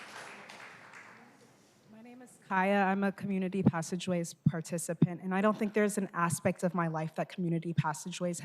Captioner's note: applause